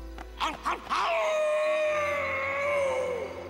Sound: werewolf howling

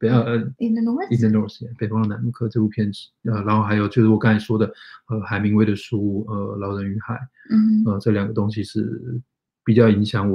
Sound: speaks mandarin

